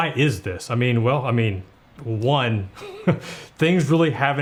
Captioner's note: laughs